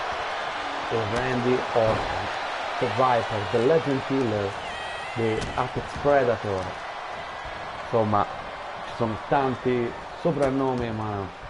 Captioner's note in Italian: Applauso